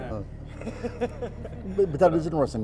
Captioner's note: everybody laughs